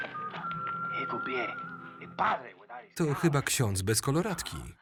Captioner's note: talking Spanish